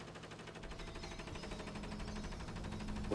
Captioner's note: fax clicking